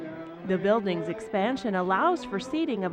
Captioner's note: laughing